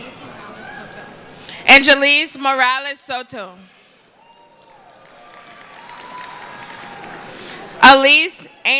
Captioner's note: cheering and applause